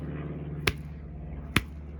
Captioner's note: splat